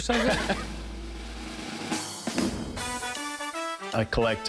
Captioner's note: laughs